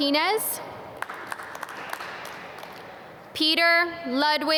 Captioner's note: audience clap